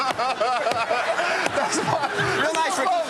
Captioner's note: laughter